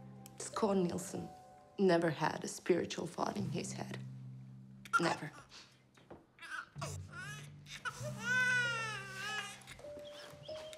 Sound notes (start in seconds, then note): 0.0 dark orchestral music; 6.4 baby cries